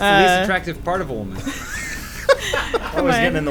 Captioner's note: laughing